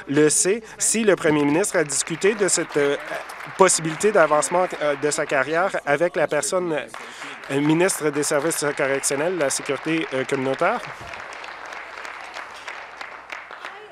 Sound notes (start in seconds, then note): 4.3 applause